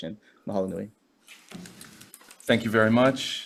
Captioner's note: speaking Hawaiian